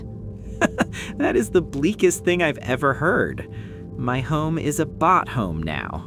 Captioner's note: short laugh